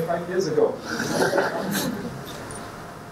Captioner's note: laughter